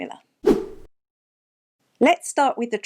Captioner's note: air whooshing